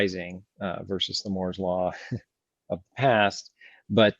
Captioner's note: laughs